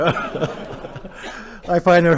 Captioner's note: laughter